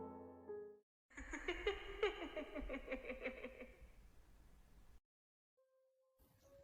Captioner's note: laughs